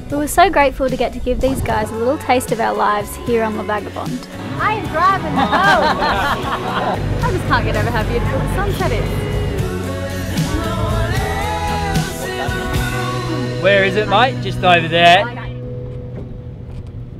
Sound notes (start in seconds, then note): 6.3 laughing; 11.0 laidback music